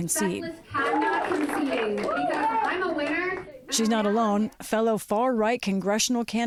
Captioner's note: cheering and applause